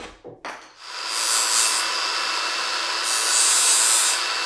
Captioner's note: tool whirring